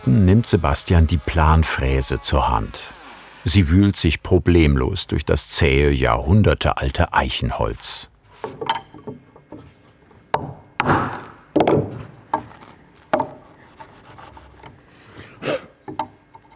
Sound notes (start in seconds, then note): 10.4 hammer blow; 15.4 blowing